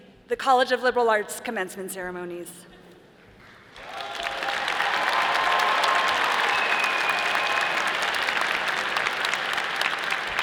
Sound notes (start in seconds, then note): 3.7 all applauding; 3.8 all cheering